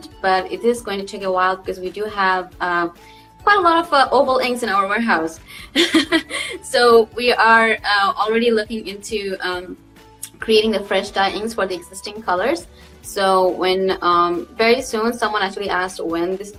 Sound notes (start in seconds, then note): 5.6 laughs